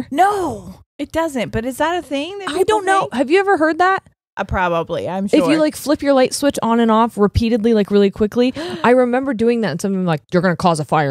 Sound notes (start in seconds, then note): 8.5 gasps